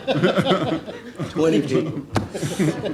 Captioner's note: laughing